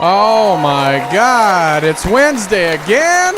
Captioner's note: cheering